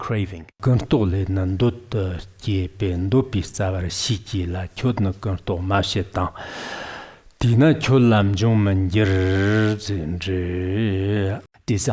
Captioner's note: giving oral transmission in Tibetan